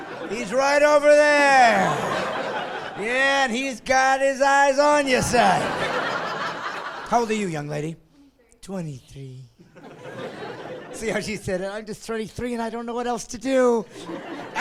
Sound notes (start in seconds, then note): 0.0 laughing; 9.6 laughing; 12.0 voiceover